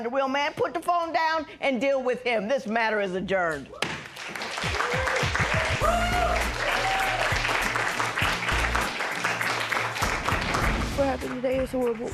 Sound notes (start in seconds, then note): 4.2 cheers and applause